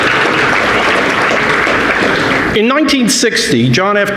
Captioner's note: audience applauding